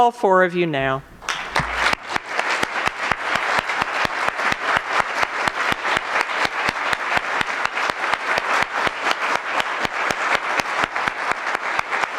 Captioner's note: applause